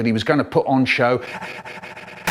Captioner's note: breathes for air, getting faster and faster and faster